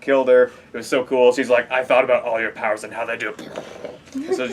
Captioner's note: makes explosion sounds